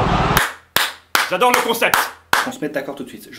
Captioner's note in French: applaudissements